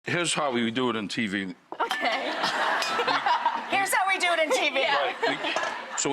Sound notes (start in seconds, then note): 1.8 laughing